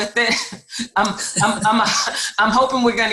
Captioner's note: chuckles